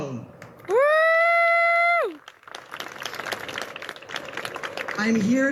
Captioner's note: audience cheers and claps